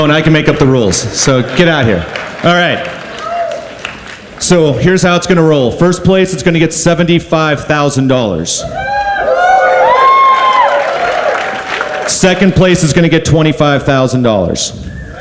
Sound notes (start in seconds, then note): 8.6 audience cheers